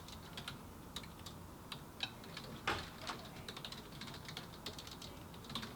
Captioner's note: fingers tap on keyboard